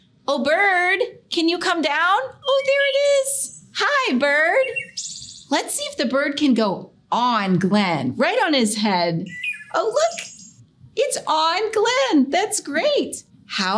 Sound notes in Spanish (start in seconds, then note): 4.0 canto de pájaros